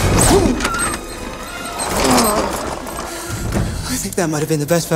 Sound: chair wheels squeaking

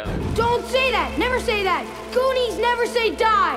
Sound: water splashes; air whooshes

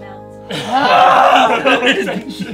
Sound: group laughing

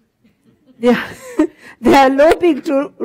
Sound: laughter

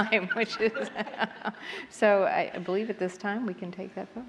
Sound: laughs

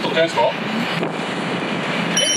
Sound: 𝔀𝓱𝓲𝓼𝓹𝓮𝓻

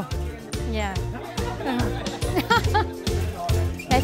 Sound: laughing

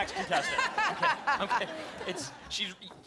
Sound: laughter

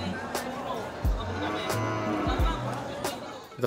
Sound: cows mooing

